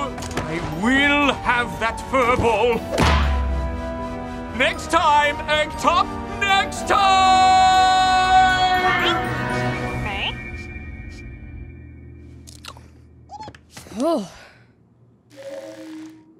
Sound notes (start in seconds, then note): 13.9 sighs in relief